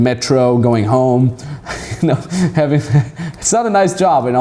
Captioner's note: laughing